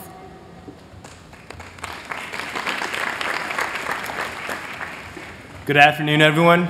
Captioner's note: applause